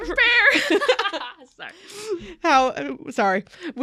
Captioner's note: hosts laugh